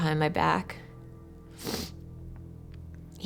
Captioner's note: sniffles